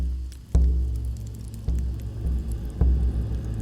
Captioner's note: fire crackling; dramatic music